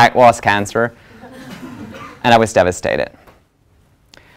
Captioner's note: laugh